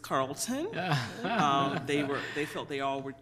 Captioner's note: laughter